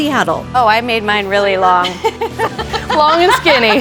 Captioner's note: laughs